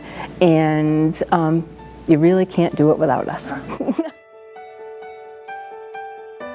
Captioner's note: laughs